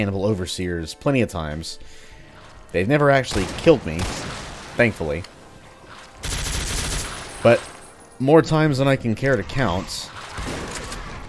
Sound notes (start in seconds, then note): 3.3 gunfire commences